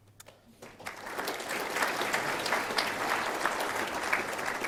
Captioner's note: applause